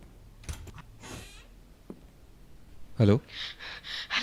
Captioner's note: door opens